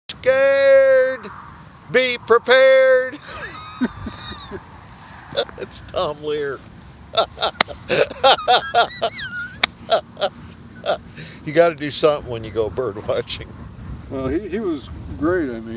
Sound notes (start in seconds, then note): 7.1 laughs